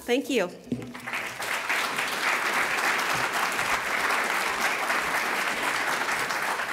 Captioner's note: applause